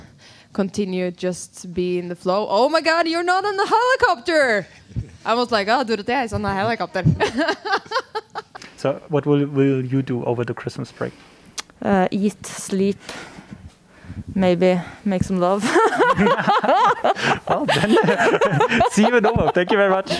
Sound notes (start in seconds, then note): 7.1 laughs; 15.6 laughs